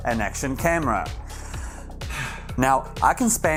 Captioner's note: big sigh